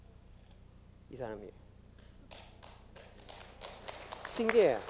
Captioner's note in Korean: 박수